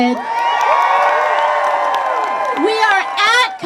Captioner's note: crowd cheers